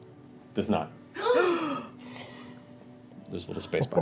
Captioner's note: gasping